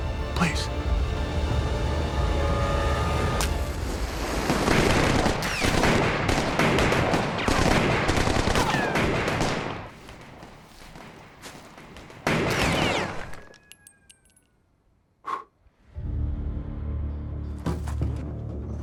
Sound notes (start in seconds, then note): 3.3 match strikes; 4.4 gun fire; 10.1 gunfire in the distance; 11.8 gun fire; 15.0 blows